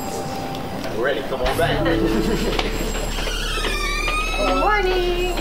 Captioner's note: laughing